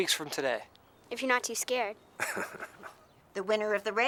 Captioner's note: Heep laughs